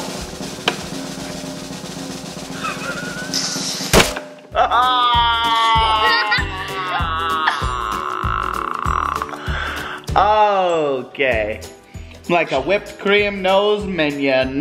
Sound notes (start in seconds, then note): 0.0 drum roll; 4.5 moans